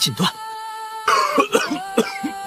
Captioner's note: cough cough cough